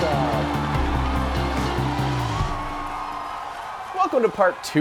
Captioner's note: crowd cheering